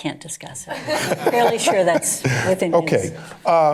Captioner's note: laughter